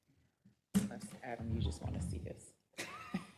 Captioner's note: laugh